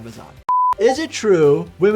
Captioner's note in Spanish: pitido de pantalla